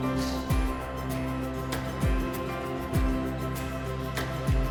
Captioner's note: music fades; cheers and applause